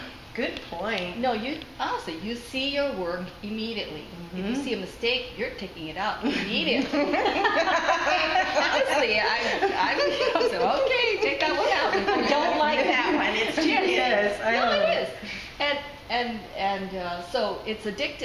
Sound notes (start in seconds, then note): 6.8 laughter